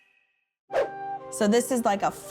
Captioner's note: upbeat music; swoosh